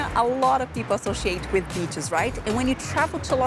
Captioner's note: none